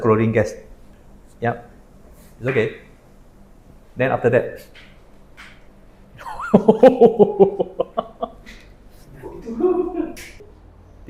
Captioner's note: laughter